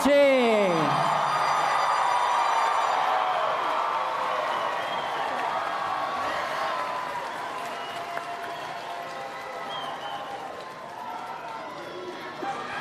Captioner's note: cheering and Applause